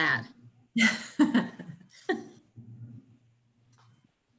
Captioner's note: laughing